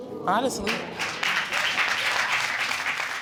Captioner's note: audience applauding